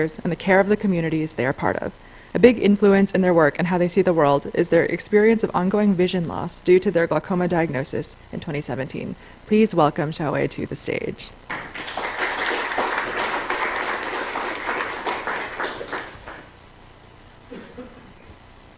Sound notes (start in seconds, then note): 11.4 applause